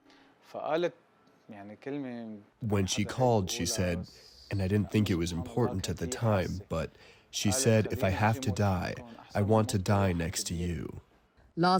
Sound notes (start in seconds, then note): 3.3 through translator